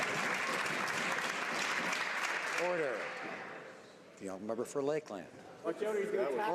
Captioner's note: some Applause